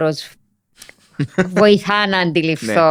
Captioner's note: he laughs